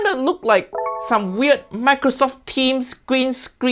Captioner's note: software chiming